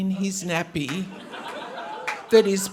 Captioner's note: audience laughing